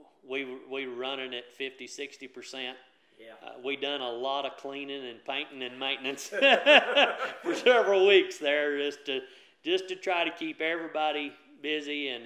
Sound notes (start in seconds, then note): 6.1 laughs